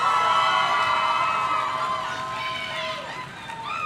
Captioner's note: audience cheering